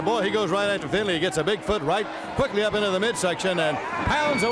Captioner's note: bell ringing